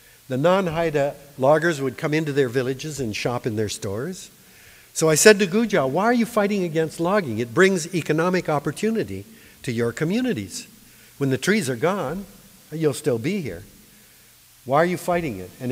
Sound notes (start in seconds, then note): none